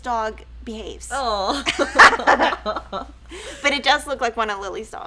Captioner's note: laughs